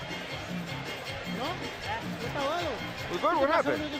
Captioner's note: speaking Spanish